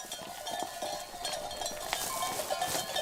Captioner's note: goat bells ringing